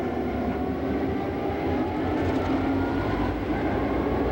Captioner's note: train chugs